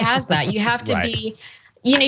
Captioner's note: laugh